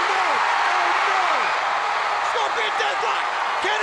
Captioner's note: crowd cheering